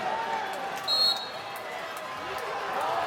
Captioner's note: referee's whistle